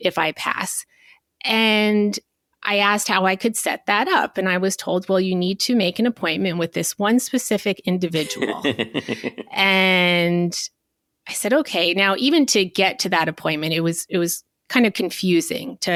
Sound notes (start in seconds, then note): 8.2 chuckling